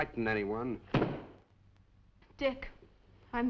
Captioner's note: book thudding